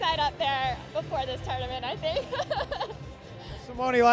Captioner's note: laughing